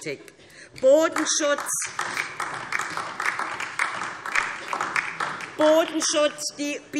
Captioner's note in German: Beifall DIE LINKE